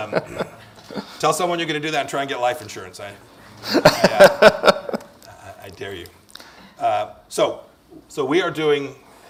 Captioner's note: laughs